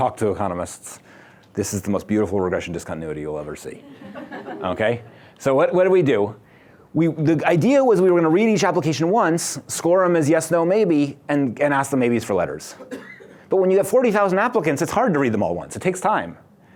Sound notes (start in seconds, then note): 3.8 laughter